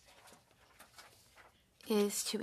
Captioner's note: speaking French